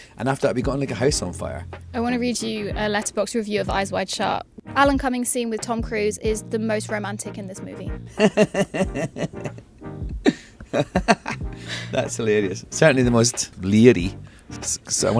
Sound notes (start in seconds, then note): 8.1 Alan laughs; 8.4 gentle upbeat music